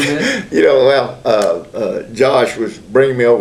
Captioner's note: laughter